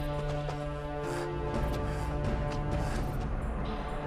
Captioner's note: Ryder huffing